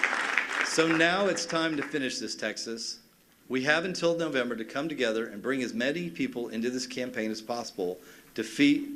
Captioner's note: cheers and applause